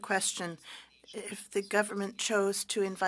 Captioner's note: speaking French